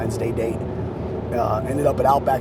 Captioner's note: wind blowing